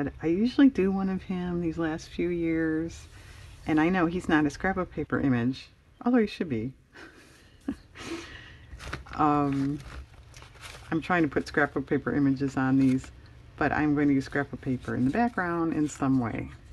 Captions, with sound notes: I usually do one of him these last few years, and I know he's not a scrapbook paper image although he should be (laughs) I'm trying to put scrapbook paper images on these, but I'm going to use scrapbook paper in the background in some way